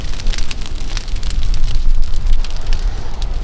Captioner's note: fire Crackling